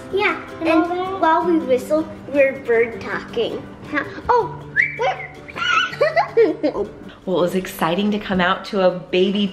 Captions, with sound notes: - Yeah and while we whistle we're bird talking. (whistles) - Oh! (giggles) - Well it was exciting to come out to a baby